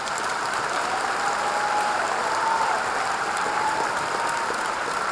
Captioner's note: audience applauding